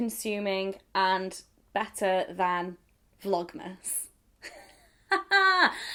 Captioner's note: laughs